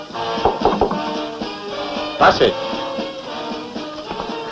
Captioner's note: knock at door